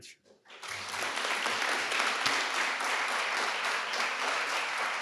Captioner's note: audience applauding